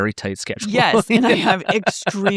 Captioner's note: laughing